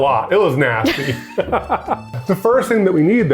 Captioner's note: laughs